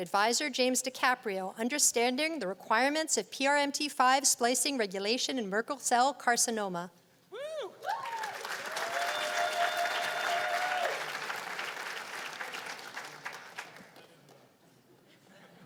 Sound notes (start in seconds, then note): 7.8 cheers and applause